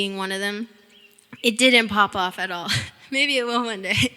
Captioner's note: chuckling